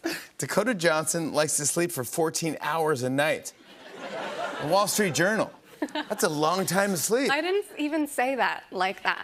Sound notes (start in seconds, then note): 3.6 laughter